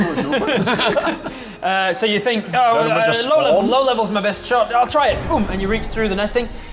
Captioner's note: boom